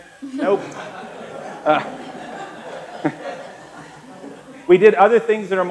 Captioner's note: laughter